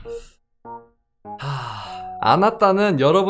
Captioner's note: sigh